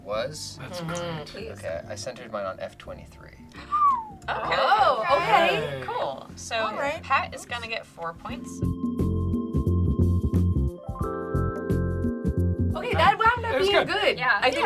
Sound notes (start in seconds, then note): 3.6 whistles; 8.1 light, bubbly music